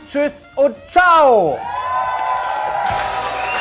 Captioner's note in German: Jubel, Applaus; Dynamische Musik